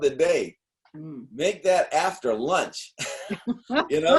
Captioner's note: laughter